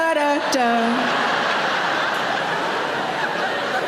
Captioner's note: audience laughs